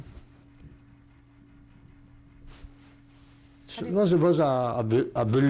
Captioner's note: pauses for 3 seconds